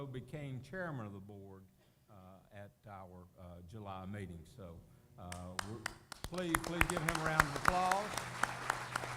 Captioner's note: applause